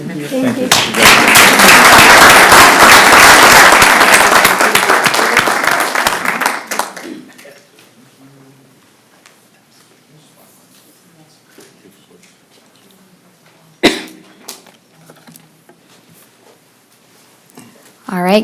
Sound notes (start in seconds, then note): 5.1 applause